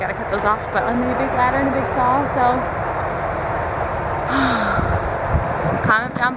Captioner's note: sighs